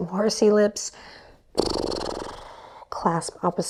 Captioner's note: blows horsey lips